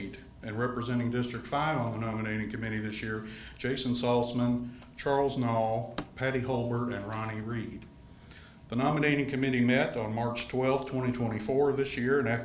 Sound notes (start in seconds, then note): none